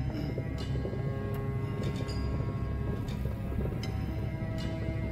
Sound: engine noise

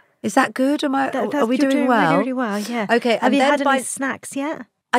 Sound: none

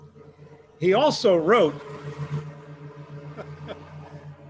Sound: laughs

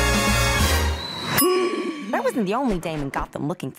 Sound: grunting

